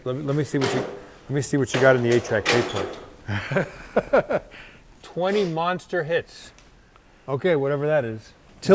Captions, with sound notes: Let me see what you got in the 8 track tape player. (laughs) 20 Monster Hits. Okay, whatever that is.